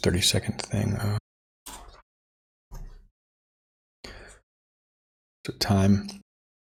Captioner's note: silence